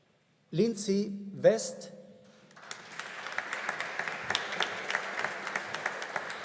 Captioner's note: audience applauding